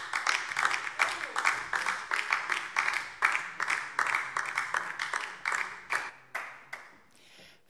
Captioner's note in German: Beifall DIE LINKE